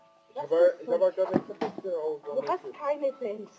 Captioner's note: stuttering